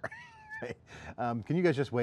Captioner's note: chuckles